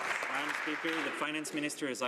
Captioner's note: some Applause